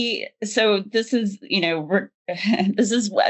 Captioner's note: chuckles